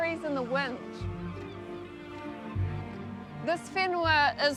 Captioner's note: seagulls cry